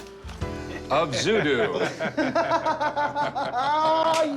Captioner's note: laughter